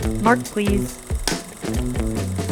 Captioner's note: slate claps